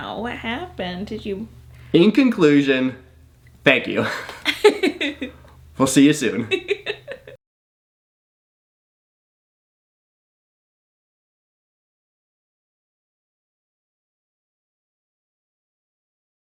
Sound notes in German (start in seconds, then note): 4.5 beide lachen; 6.4 lacht